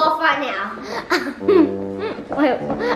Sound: laughing

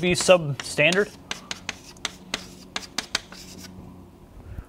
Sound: chalkboard writing

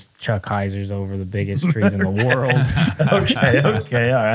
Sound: laughter

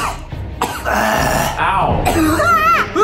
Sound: coughing; gagging; coughing

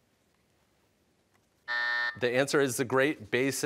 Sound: buzzer

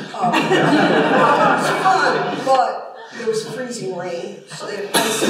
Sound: laughter

